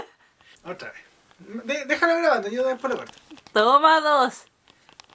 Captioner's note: laughs